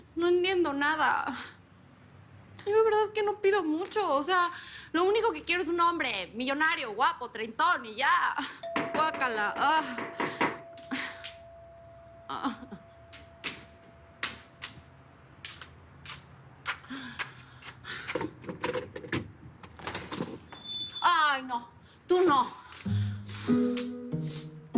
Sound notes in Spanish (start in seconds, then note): 8.7 Toques en la puerta; 19.6 Sonido al abrir la puerta